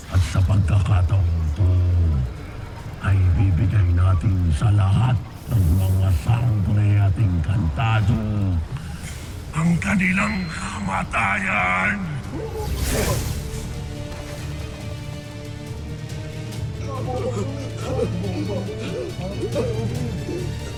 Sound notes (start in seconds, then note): 12.8 evil energy whoosh-crackle; 13.8 tense music playing; 16.6 panicking